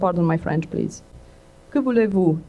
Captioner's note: french speech